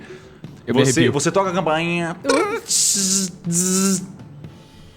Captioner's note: zzz zzz